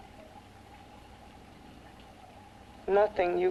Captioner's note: liquids bubbling